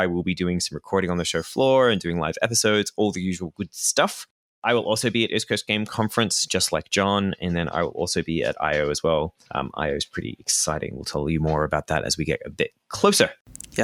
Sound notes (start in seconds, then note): none